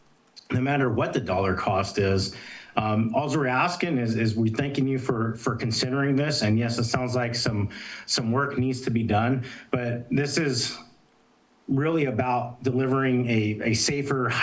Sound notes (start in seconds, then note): none